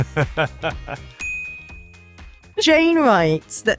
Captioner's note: laughs; graphics chimes